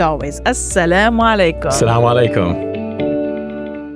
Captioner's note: both speaking non-English language; inspiring music